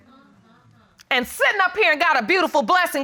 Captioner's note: audience murmuring